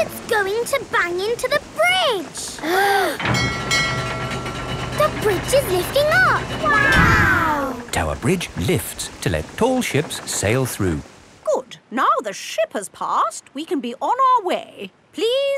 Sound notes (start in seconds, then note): 2.6 kids gasping; 3.2 bell dinging